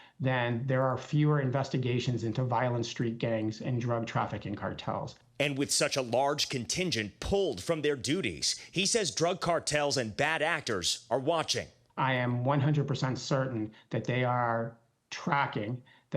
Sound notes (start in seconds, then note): none